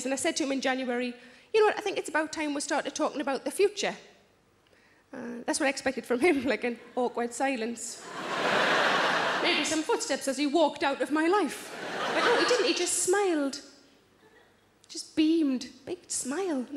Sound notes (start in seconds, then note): 8.0 audience laughs